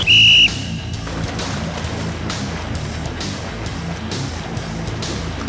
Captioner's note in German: Pfiff